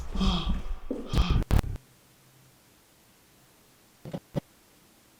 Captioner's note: Jacob panting; static flipping; static flipping